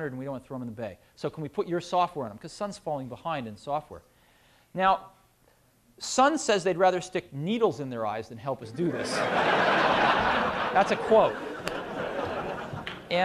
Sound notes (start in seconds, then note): 8.8 laughter